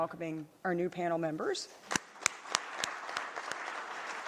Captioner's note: applause